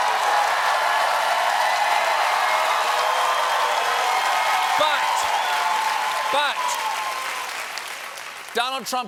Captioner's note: applause